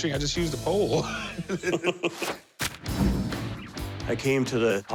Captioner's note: laughter